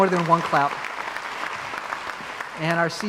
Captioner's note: crowd applauds